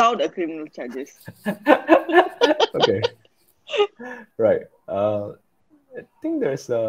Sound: laughs

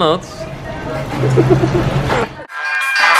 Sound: laughter

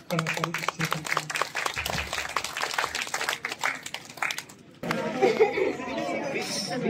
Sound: applause

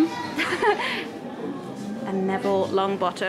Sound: laughing

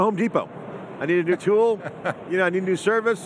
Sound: chuckling

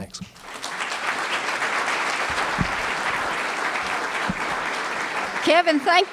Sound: applause

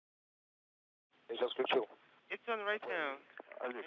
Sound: foreign language

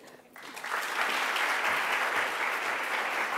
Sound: applause

